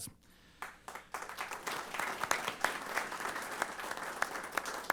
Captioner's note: applause